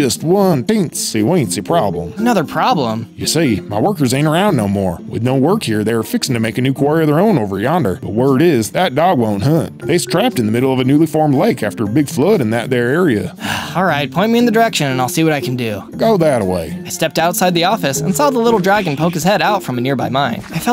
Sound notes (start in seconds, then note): 13.4 siiigh